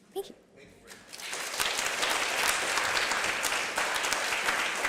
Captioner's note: applause